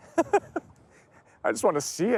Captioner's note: chuckles